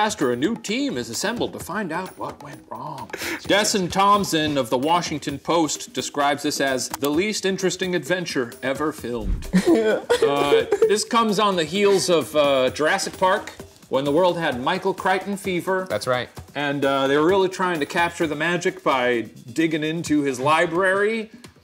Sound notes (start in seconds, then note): 9.4 laughing